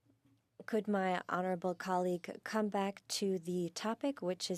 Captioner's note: speaking French